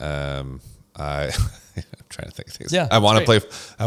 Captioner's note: laughs